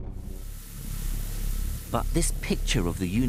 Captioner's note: particles fizzing